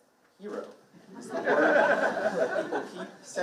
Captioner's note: participant laughing